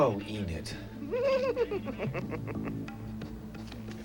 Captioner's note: chuckling